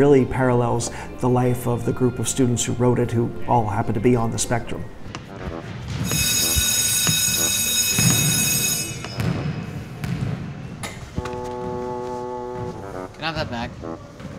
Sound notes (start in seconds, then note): 5.5 bassoon playing; 6.0 school bell ringing